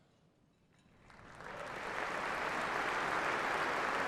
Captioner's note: applause